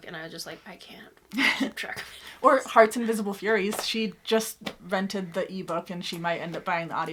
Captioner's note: laughs